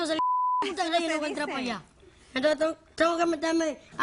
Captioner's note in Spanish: Bip